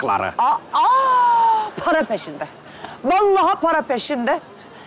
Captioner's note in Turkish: none